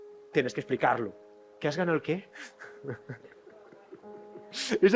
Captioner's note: laughs